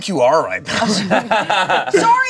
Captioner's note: everyone laughs